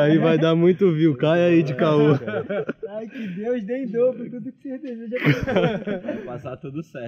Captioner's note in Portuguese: risos